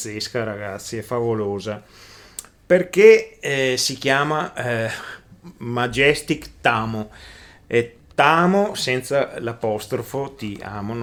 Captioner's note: in Italian